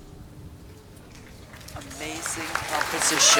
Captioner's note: applause